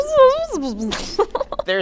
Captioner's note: laughter